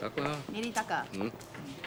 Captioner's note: speaking foreign language